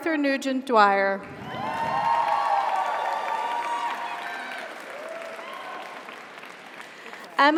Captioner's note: audience applauds; audience cheers